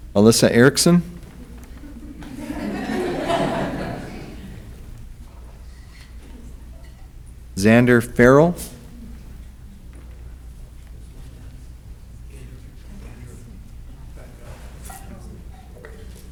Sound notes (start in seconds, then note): 1.2 audience laughs